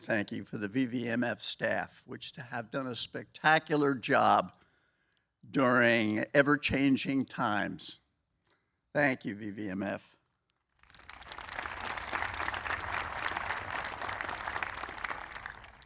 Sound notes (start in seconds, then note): 10.7 applause